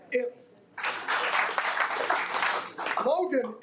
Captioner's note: audience applauding